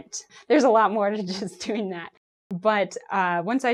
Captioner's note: chuckles